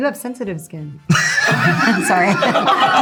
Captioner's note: all laughing